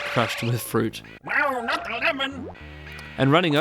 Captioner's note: alien voice